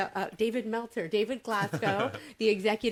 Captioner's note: laughing